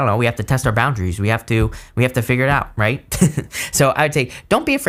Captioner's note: laughs